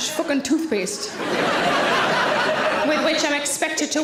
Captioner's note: audience laughs